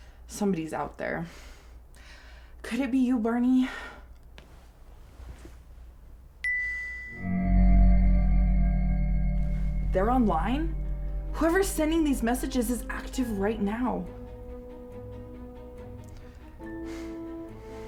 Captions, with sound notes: Somebody's out there. Could it be you, Barney? (phone beeping) (suspenseful music) They're online? Whoever's sending these messages is active right now.